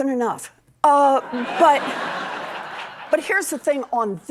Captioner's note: laughter